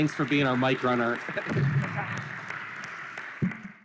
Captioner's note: applause